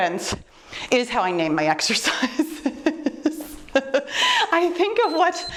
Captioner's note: chuckles; timer beeps